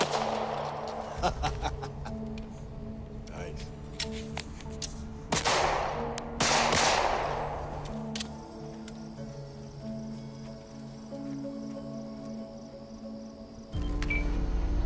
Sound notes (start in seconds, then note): 5.3 gun pops; 7.9 shutter snaps; 13.7 camera beeps